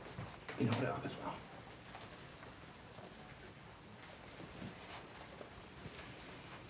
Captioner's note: fabric rustles; indistinct chatter